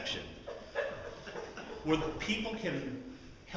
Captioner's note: laughter